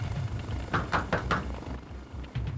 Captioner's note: knocking